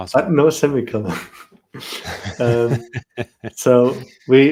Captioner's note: laughter